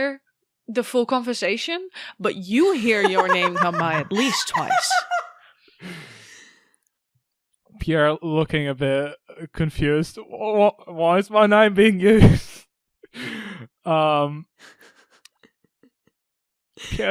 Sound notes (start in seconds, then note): 6.5 Alyssa laughs; 15.7 chuckles